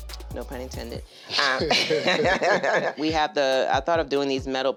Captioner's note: both laughing